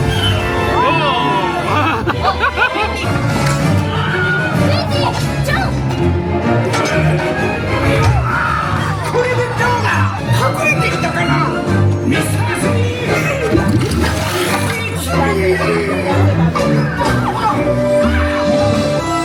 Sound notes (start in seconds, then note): 1.4 laughing; 4.9 characters speaking Japanese; 15.1 characters speaking Japanese